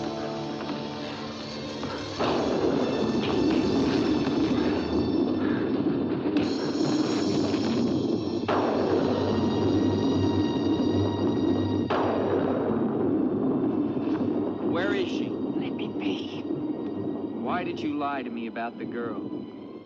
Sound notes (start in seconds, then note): 2.2 loud thunder; 2.2 suspenseful music; 6.4 whack; 8.5 loud thunder